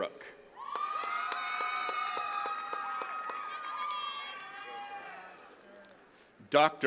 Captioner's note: attendees cheering and clapping